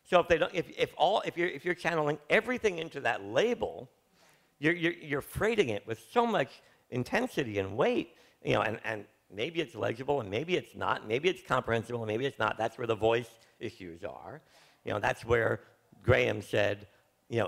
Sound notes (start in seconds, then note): none